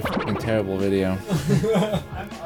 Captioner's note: laughter